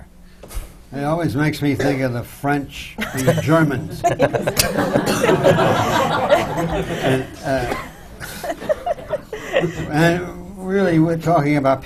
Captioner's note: laughter